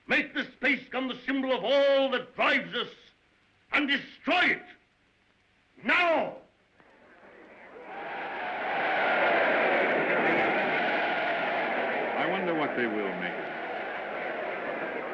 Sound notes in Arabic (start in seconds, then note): 6.8 صخب الحشد